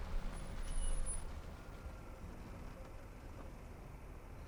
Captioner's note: brakes squeak